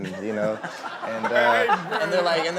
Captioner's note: laughing